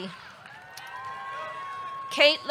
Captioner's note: audience cheering